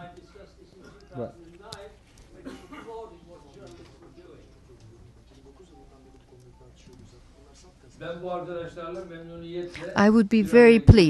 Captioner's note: through translator